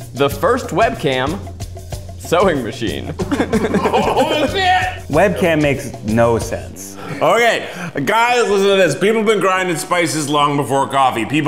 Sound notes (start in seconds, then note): 3.1 laughs; 7.5 slurring